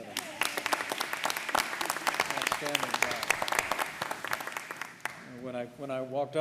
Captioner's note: applause